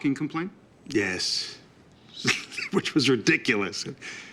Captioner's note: chuckles